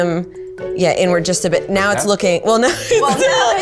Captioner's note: she laughs